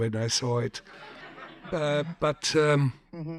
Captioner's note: audience chuckles